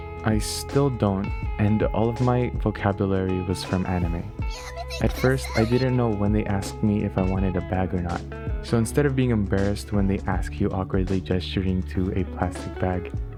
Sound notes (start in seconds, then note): 4.5 play yamete kudesai sound effect